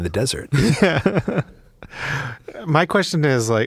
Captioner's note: laughing